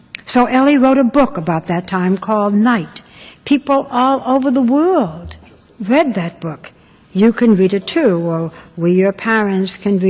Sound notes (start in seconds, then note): none